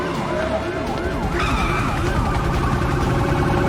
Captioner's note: siren wailing